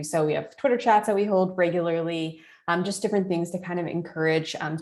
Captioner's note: none